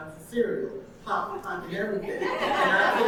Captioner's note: audience laughing